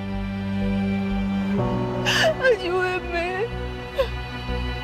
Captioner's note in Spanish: Solloza